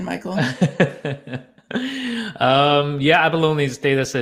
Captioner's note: chuckling